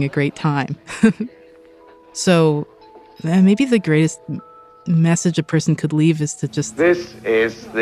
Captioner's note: laughs